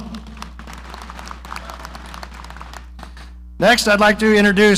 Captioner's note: audience applauding